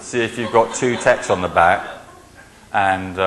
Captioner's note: laughing